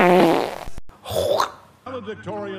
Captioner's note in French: Michael avale avec excitation et plaisir sexuel